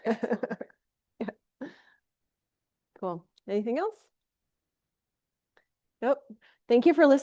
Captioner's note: laughs